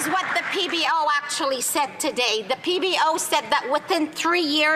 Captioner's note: some Applause